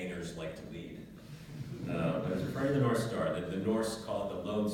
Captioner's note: laugh